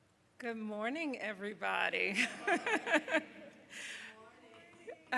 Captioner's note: laughing